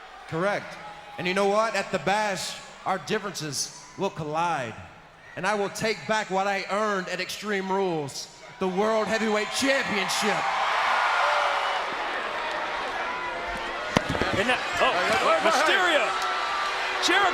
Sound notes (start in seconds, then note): 10.6 crowd cheers; 14.2 microphone crackles